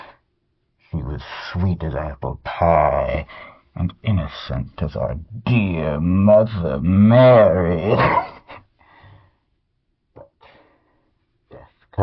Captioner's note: laughs